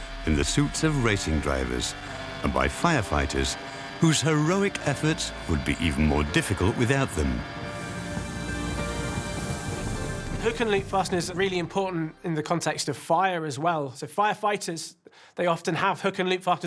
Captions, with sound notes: in the suits of racing drivers and by firefighters, whose heroic efforts would be even more difficult without them. (flames crackling) - Hook-and-loops fastener are really important in the context of fire, as well. So, firefighters they often have hook-and-loop fasteners